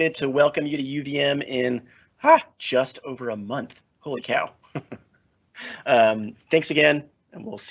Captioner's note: chuckles